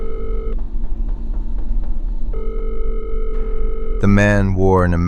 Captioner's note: SFX: phone ringing